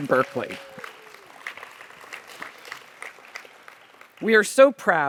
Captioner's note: audience applauds